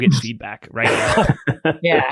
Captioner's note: laughs